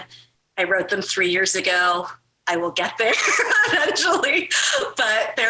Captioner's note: laughs